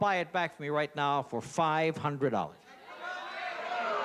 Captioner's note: audience shouting